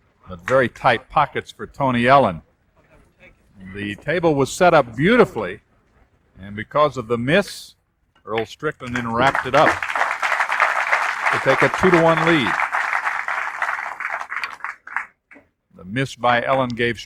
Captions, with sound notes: Very tight pockets for Tony Ellen. The table was set up beautifully and because of the miss, Earl Strickland then wrapped it up. [applause] We'll take a two to one lead. The miss by Ellen gave